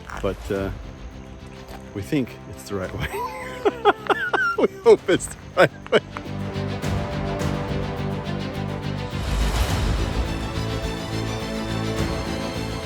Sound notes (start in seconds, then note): 3.0 laughing; 6.3 dramatic instrumental music